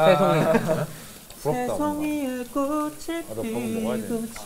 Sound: humming

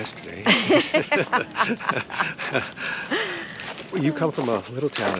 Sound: both laughing amusingly

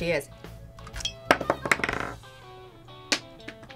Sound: cork clatters

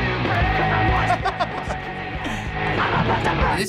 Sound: chuckles

